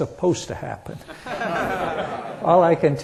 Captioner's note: laughter